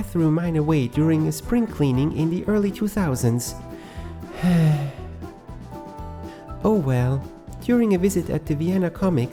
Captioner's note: sigh